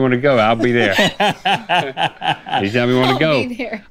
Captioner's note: laughter